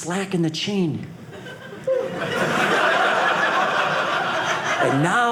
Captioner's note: audience laughing